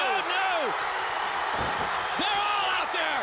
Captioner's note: crowd cheering